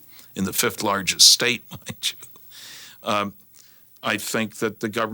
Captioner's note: chuckles